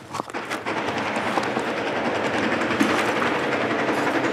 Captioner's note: guns rapidly firing